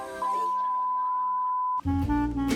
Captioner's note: tone beeps; laid-back music